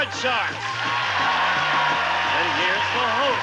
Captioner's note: audience cheering